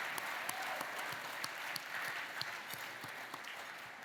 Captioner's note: cheering, applause